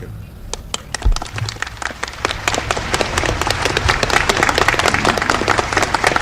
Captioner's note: audience applauding